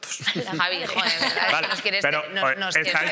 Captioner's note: they laugh